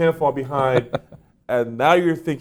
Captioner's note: chuckles